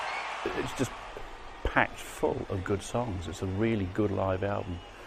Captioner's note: crowd cheering